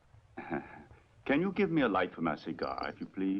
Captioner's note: chuckles